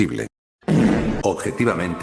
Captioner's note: sound of fart, fucking old woman Sow ajjajajaja I am good parrot